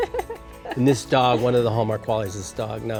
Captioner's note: laughs